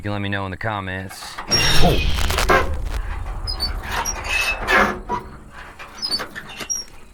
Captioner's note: bird squealing; door creaks; insects chittering